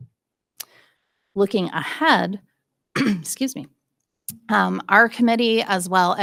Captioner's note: clears throat